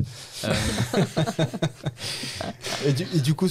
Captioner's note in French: Rires